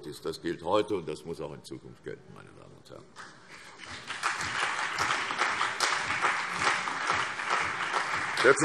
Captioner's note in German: Beifall CDU und BÜNDNIS 90/DIE GRÜNEN